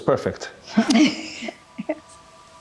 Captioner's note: giggles; ethereal music